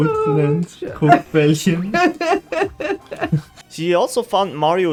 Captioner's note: laughs